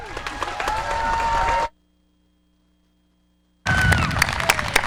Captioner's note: audience applause and cheer